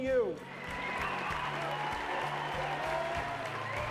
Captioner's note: audience cheering and applauding